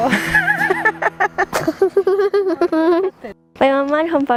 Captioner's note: everyone laughing; laughing